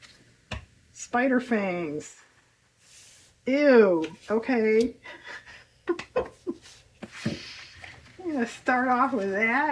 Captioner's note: laughs